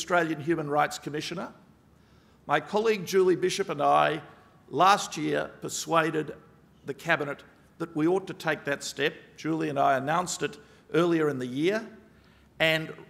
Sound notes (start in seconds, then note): none